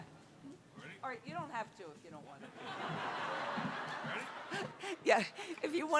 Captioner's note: laughter